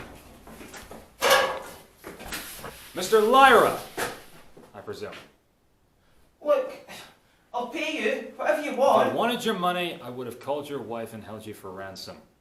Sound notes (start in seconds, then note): 1.1 clanging sound